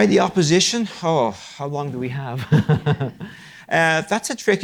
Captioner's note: chuckles